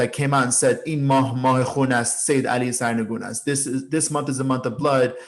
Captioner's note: speaking in foreign language